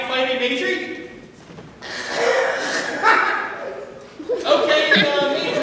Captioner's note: dio scoffs